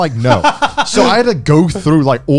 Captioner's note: laughs